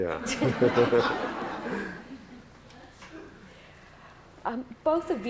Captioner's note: laughter